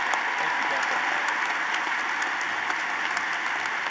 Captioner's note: applause